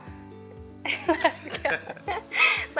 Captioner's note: laughter